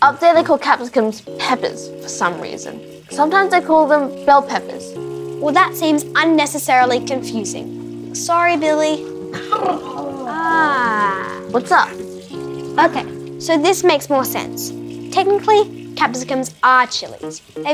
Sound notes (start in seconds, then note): 9.3 groans